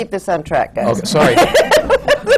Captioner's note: laughter